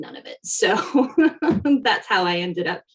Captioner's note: laughing